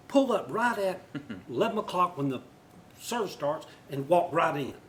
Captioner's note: laughter